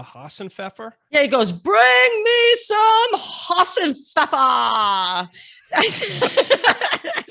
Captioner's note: laughs